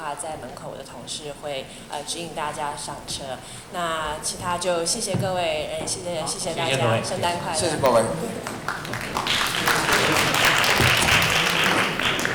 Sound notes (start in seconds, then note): 6.2 Mandarin; 7.6 audience clapping; 7.9 Mandarin